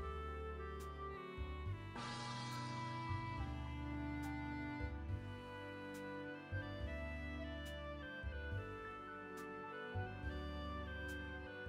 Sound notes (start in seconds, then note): 0.3 calm music; 2.0 gong sound